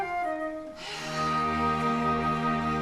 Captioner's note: all sigh